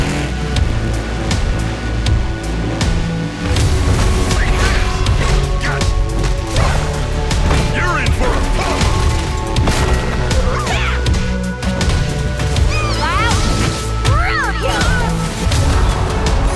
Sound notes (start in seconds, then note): 5.0 grunting; 14.0 grunts